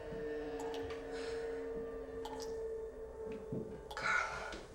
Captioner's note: Jill gasps